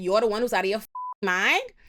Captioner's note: beep